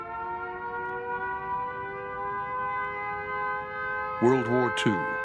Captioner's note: air raid sirens wail in distance